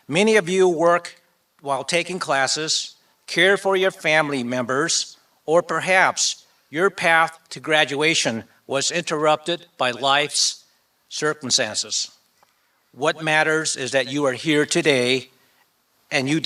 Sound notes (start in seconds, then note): none